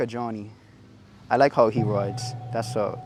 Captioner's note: pluck sfx